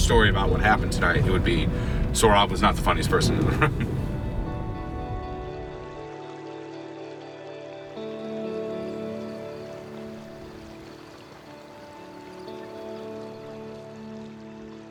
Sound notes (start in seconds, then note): 4.9 gentle music; 4.9 water babbling